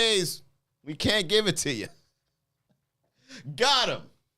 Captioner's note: laughs